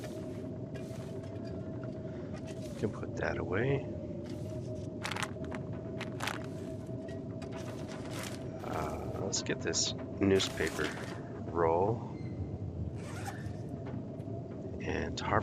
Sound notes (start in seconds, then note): 5.0 pills rustle